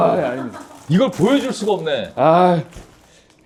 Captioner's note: squish Squish